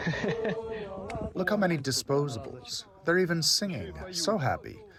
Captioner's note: through translator